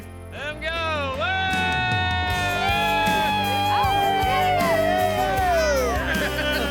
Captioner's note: everyone cheering